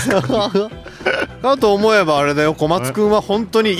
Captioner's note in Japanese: 笑い